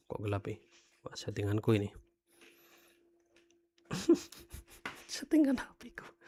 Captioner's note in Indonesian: tertawa